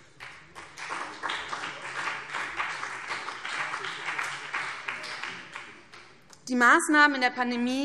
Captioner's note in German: Beifall BÜNDNIS 90/DIE GRÜNEN und vereinzelt CDU